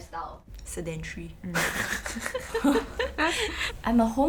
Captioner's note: all laughs